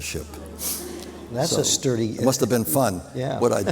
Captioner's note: laughter